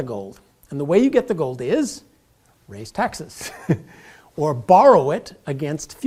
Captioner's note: laugh